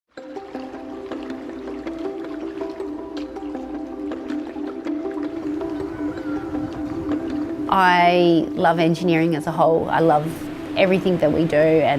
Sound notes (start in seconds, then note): 0.4 bright music; 1.2 water trickling; 5.2 birds cawing